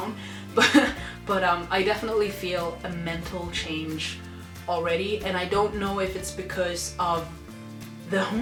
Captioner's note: laughs